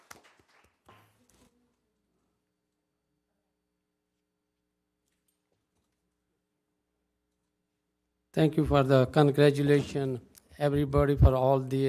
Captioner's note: applause